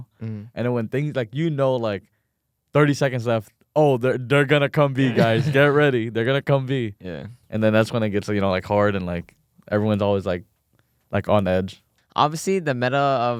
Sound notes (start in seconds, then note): 5.0 laughs